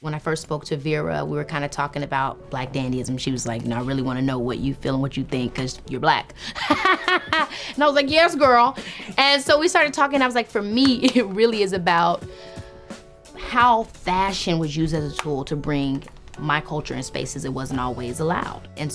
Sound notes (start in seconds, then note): 6.5 interviewer laughing; 6.5 laughing